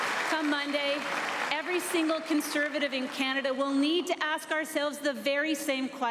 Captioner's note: applause